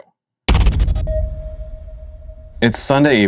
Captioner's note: thud and beeps